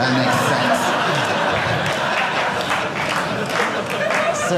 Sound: audience laughing

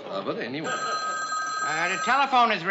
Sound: telephone ringing

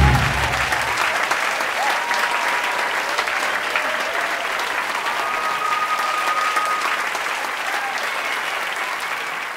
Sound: applause

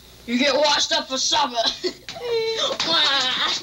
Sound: chuckles

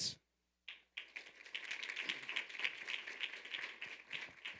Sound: audience applauding

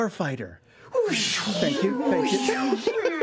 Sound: zooming

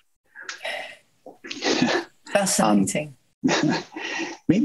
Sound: chuckling

